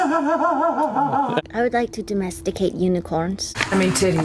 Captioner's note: very seriously